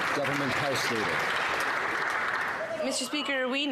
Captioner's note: some Applause